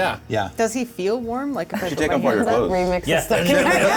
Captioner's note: indescribable Laughter